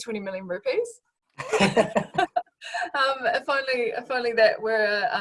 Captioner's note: laughs